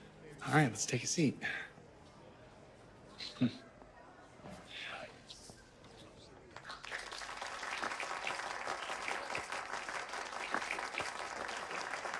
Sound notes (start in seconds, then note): 6.6 audience applauding